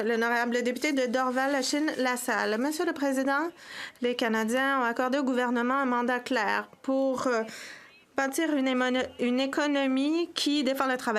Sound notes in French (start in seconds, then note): 4.7 voix de l'interprète